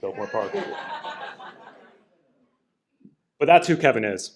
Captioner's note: laughter